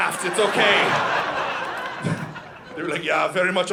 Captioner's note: audience laughing